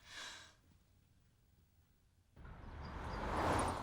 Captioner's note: sighs